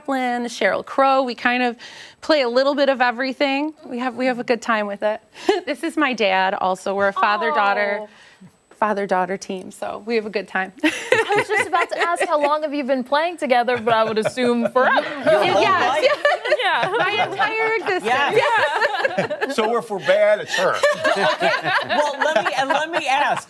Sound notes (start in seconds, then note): 13.7 laughter; 19.9 laughter